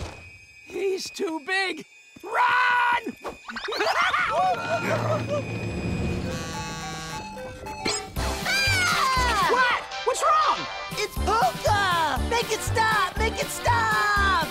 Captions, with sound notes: He's too big. Run! [screaming] [buzzing, chiming] [screaming] What?! What's wrong?! It's polka! Make it stop! Make it stop!